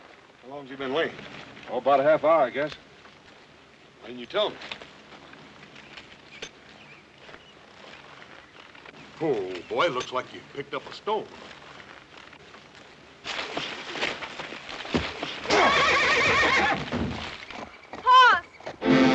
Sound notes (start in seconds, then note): 15.2 men grunting, horse neighs